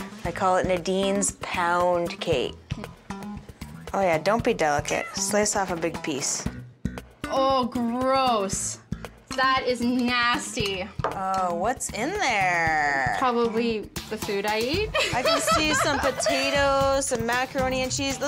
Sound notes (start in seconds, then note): 14.9 laughing